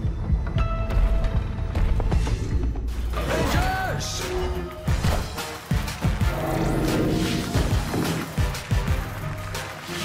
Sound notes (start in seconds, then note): 5.5 applause; 7.8 applause